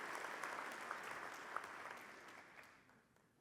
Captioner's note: audience applauding